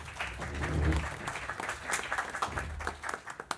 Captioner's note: applause